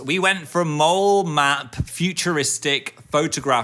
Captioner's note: none